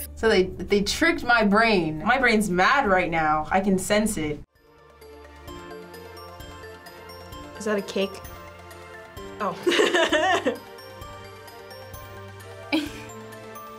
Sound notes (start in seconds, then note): 9.6 laughs; 12.7 chuckles